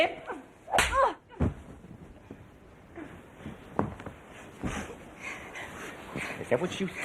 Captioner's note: hand claps face; Pat grunts